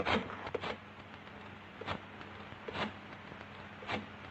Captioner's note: phone clicking